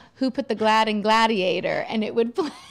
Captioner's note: laughing